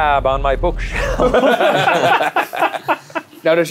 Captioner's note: all laughing